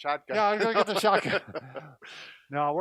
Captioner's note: laughing